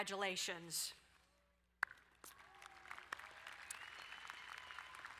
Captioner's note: crowd applauding